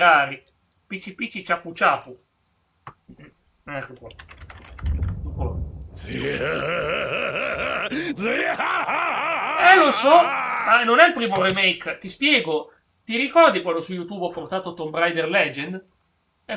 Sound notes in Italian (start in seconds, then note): 3.6 schiarire la voce; 7.5 gemito; 8.9 urlo